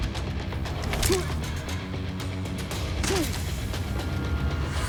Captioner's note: grunting